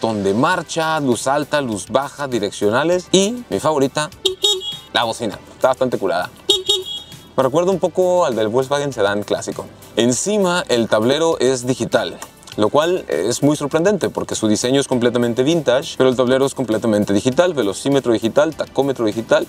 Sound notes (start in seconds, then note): 6.4 horn